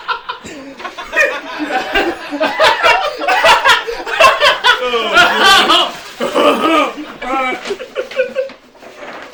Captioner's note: laughter